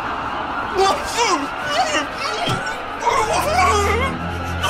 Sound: frightening music; muffled screaming

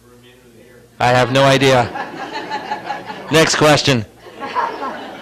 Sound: audience Laughs

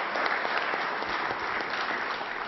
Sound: applause

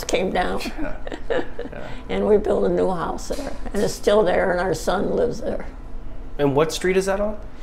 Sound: chuckles

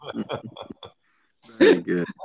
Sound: laughter

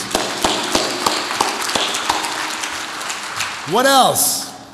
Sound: audience applauds

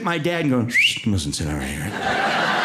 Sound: whistles

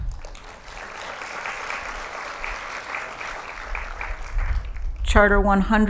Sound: applause

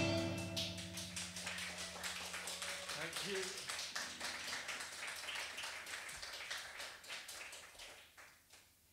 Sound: audience clapping

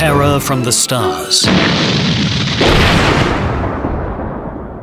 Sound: explosion blasting

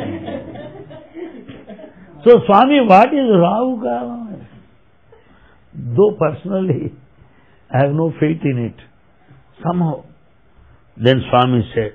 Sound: laughter

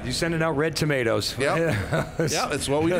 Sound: chuckles

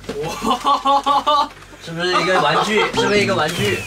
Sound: enthusiastic laughter

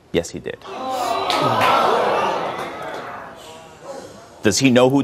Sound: audience exclaims

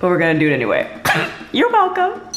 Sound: laughs

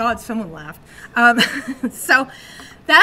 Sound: chuckles

